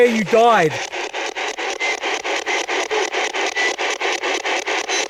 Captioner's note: static ticking